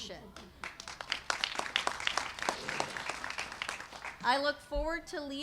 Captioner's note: applause